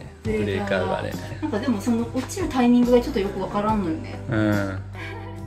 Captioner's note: laughs